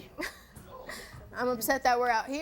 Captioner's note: scoffs